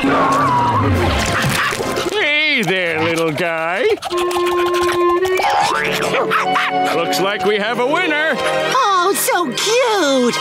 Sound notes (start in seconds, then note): 6.0 barking